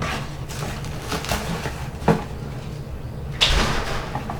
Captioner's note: cling wrap rustling